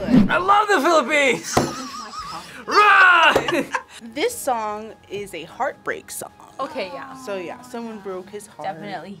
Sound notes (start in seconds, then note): 1.7 React laughs